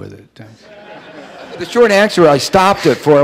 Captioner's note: audience laughing